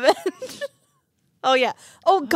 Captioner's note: laughing